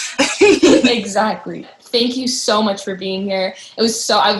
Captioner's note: laughter